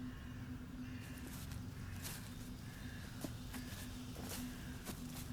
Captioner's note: footsteps pattering